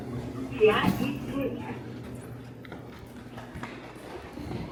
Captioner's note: none